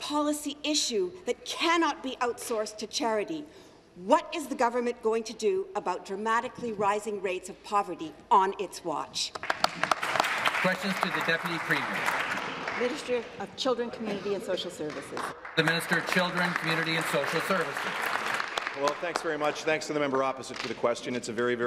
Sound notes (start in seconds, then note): 14.8 applause